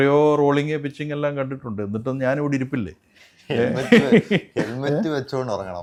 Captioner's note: laughter